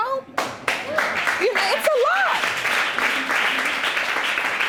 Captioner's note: audience applauding